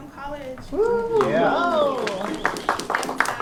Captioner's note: cheering; applause